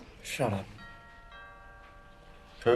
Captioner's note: DOORBELL RlNGlNG